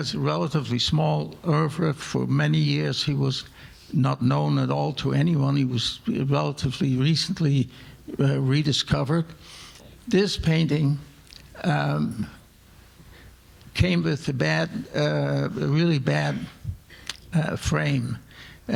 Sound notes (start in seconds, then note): none